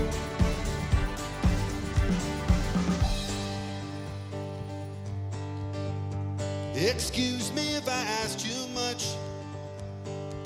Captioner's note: applause